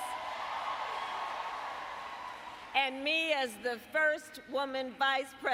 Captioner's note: applause